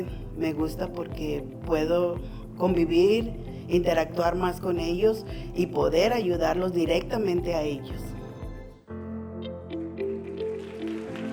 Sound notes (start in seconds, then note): 1.8 continues speaking in foreign language; 9.0 bright music